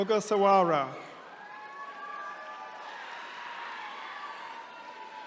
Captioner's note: attendees cheering